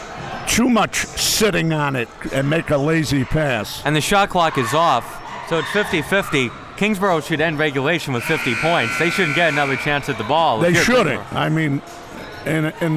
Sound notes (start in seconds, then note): 8.1 clock buzzes